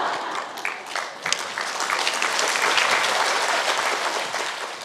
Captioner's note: audience Laughter